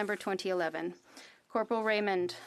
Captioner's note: speaking French